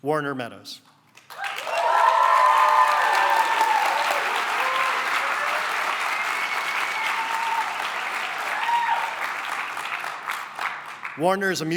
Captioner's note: cheering and applause